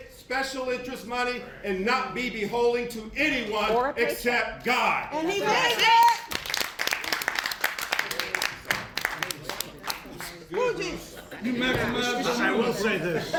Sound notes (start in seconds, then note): 5.8 applause; 12.0 laughs